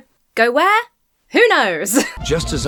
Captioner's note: laughs